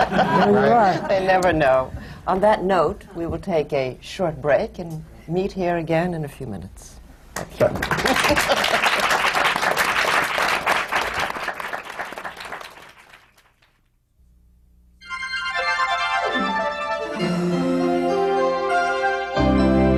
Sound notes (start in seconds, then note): 11.2 applause